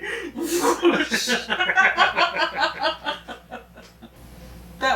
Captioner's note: both laughing